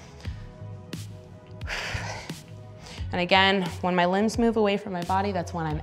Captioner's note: exhale